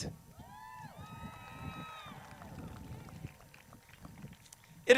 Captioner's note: crowd cheers